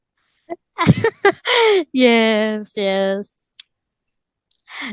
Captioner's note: laughs